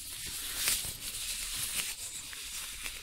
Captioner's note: glove sounds